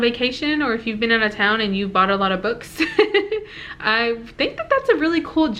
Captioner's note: giggle